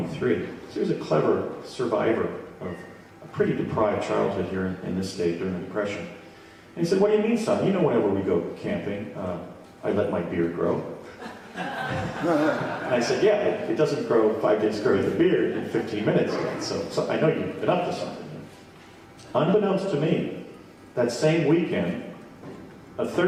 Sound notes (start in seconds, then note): 11.1 audience laughing; 11.2 laughs